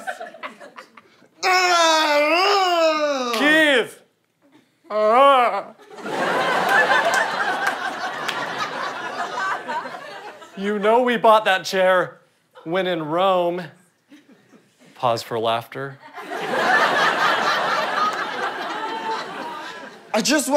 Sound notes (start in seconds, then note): 1.4 screaming and grunting as Dad; 3.6 in strange voice; 4.9 distressed vocalization; 5.8 audience laughter; 16.1 audience laughter